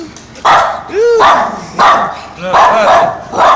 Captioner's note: bark bark bark